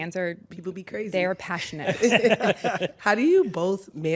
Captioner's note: laughter